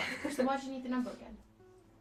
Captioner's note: laughing